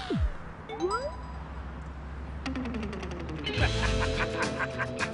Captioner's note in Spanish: Alerta de mensaje; Ríe